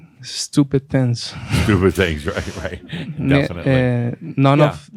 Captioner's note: Adamus chuckles